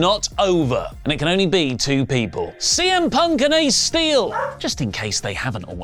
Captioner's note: dog woof noise